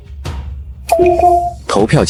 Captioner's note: ding-dong